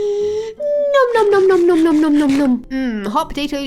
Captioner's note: Amy Lee moans; inhales deeply